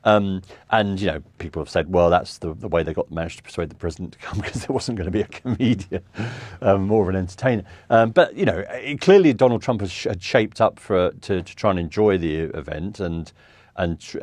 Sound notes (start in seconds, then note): 4.3 chuckles